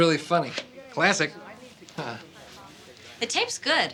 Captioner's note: chuckles